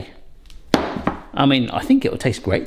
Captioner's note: loaf tin banging